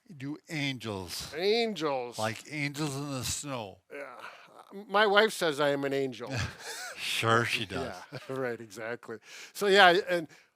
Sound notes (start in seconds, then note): 6.4 light chuckle